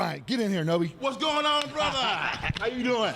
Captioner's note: laughs